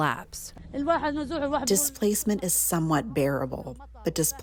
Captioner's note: through translator